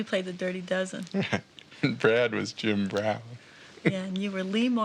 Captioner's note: chuckles